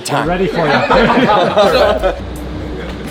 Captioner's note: laughter